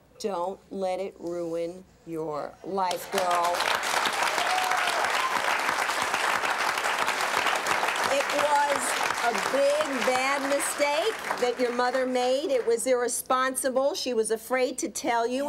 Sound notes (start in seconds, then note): 3.4 applause